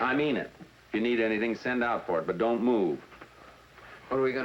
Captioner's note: none